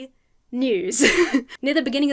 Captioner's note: chuckles